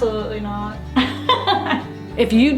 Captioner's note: laughter